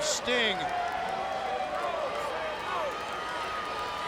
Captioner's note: crowd yelling